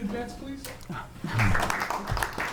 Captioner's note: applause